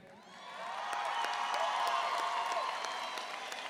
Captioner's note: audience cheers